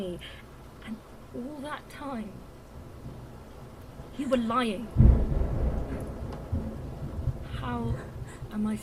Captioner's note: thunder crashes